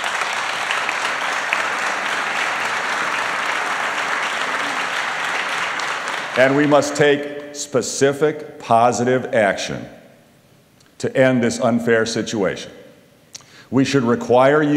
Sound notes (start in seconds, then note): 0.0 applause